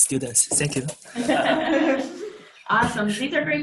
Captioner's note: laughter